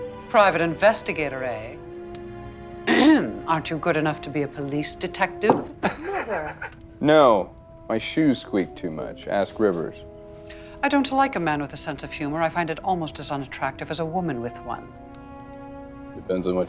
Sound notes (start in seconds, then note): 5.8 Johnny laughing